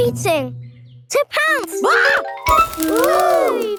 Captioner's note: screams